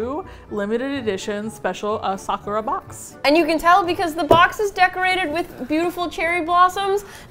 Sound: excitedly

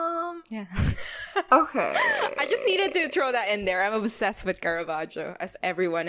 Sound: laughs

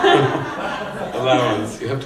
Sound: laughter

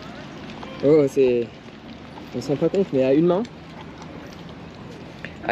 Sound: speaking in foreign language

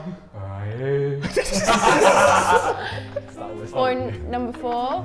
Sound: Sidemen laughing

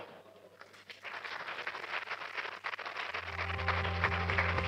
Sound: applause

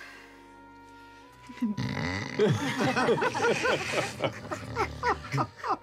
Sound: Bertrand starts snoring again

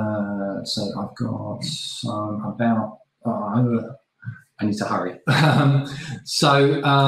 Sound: laughing

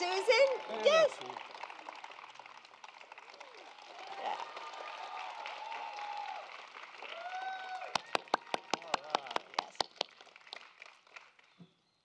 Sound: applause

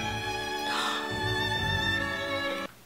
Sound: gasps

